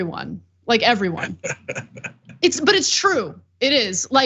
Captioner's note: laugh